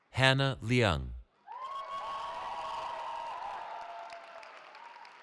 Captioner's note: cheering